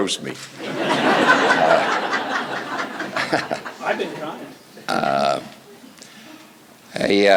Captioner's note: laughter